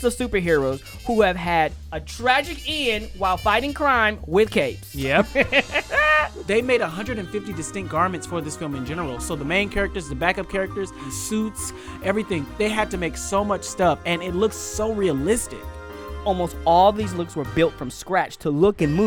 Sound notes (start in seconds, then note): 5.2 laughs